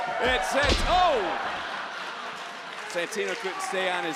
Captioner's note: crowd laughing